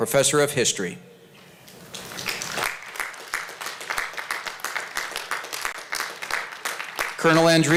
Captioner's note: applause